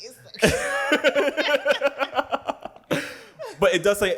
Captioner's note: laughter